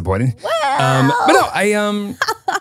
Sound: laughs

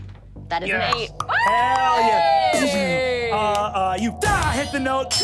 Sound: audience applauding

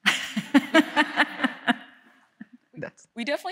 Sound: chuckles

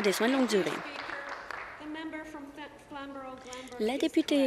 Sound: applause

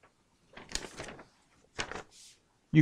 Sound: none

